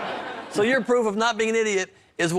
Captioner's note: laughs